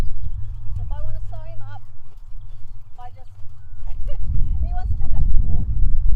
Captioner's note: laughs